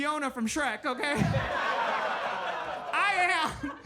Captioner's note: audience laughs